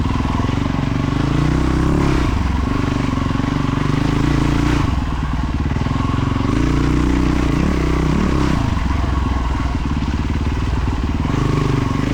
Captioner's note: engine revving